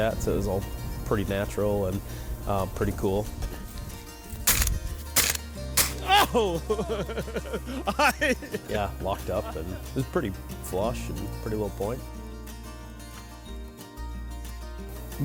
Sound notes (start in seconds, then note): 5.1 gun firing; 6.0 laughing